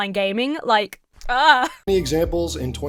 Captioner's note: groans in frustration